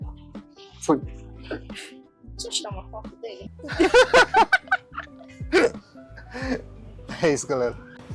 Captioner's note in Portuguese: risadas